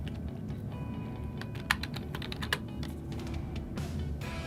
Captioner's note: typing sounds; upbeat music